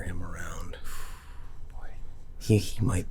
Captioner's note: sighs